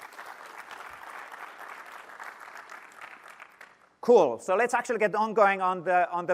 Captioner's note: applause